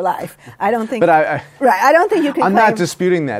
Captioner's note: laughs